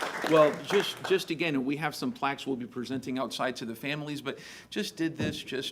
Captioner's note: applause